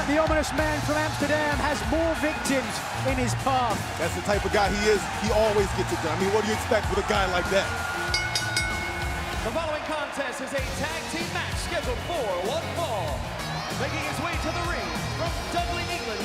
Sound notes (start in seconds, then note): 0.0 crowd cheering; 9.6 bell ringing